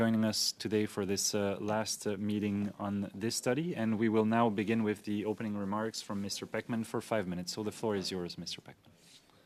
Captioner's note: speaking French